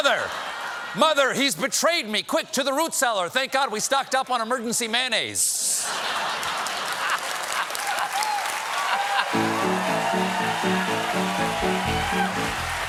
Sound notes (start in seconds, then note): 5.7 laughter; 6.1 applause; 9.3 piano riff